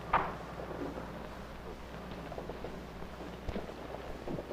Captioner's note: whispering